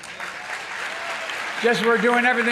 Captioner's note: applause